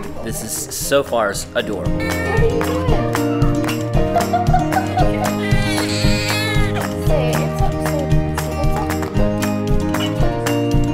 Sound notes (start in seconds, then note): 4.0 laughing; 4.5 baby crying; 8.0 upbeat music